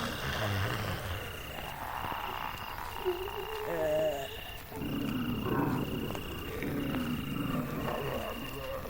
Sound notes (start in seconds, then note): 3.7 zombies moaning